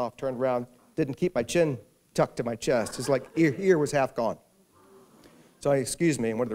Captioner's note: gasps